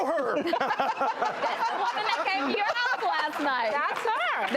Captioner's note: laughter